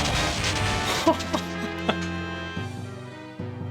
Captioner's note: laughs